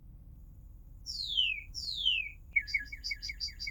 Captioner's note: cardinal sings